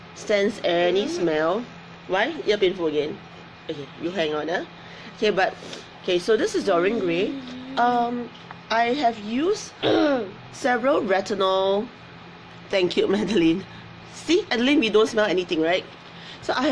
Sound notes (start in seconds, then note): 0.8 girl groans; 9.8 girl clears throat